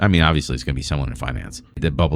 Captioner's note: uh